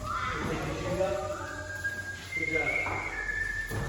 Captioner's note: echoing and whistling